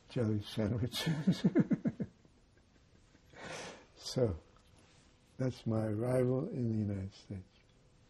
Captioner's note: laughing